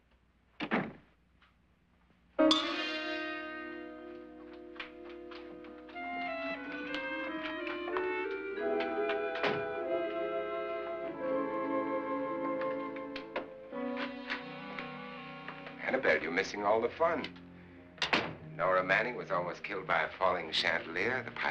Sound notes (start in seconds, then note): 0.6 door closes; 2.3 dramatic music; 4.0 Annabelle's footsteps running; 4.5 ominous music; 8.5 door opens; 8.6 door closes; 10.6 ominous music; 18.0 door closes